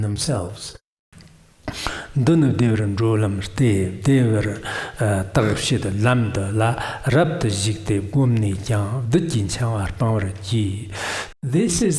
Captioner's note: giving oral transmission in Tibetan